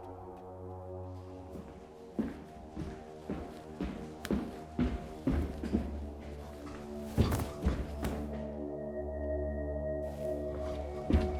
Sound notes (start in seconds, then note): 2.5 footsteps thudding